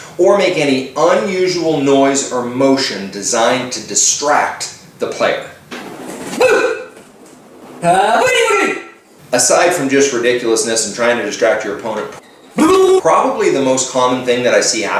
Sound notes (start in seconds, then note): 7.9 screams; 12.5 makes funny noises